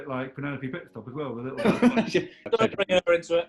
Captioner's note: laughing